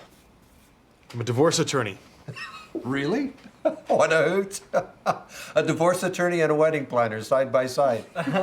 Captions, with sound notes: UH... I'M A DIVORCE ATTORNEY. [LAUGHS] REALLY? WHAT A HOOT! A DIVORCE ATTORNEY AND A WEDDING PLANNER,